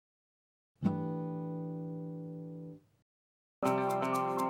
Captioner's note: chime sounds; upbeat music